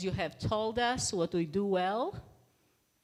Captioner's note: none